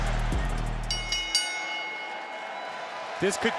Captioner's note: bell ringing